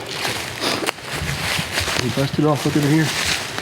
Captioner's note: leaves crunching